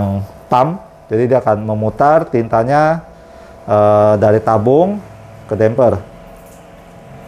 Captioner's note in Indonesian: suara mesin printer